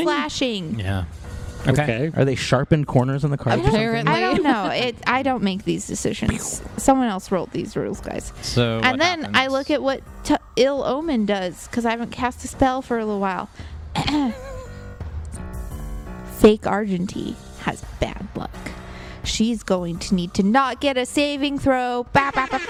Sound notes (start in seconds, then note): 3.5 laughs